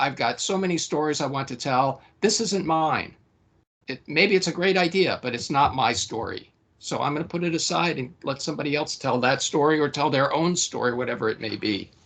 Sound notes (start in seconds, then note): none